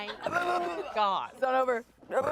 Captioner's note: burps